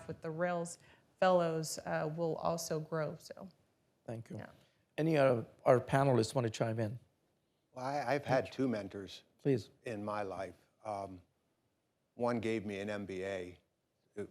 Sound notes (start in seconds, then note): none